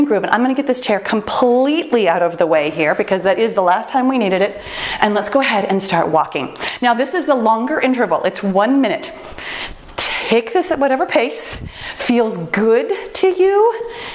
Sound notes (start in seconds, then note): 6.6 timer beeps